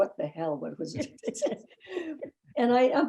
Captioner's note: laughing